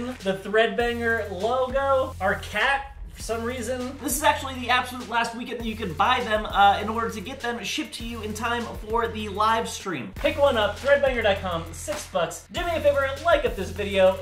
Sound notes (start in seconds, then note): none